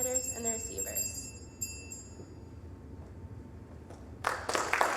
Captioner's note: bell dinging; applause